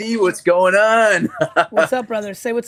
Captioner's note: laughs